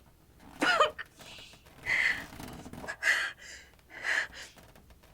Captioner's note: breathes sharply